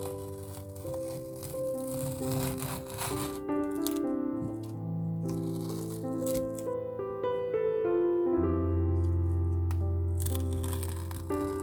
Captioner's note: removing masking tape sound